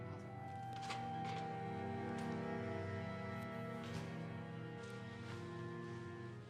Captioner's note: patrons chattering